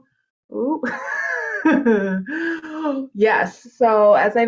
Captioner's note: laughs